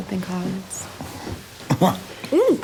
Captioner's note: chuckling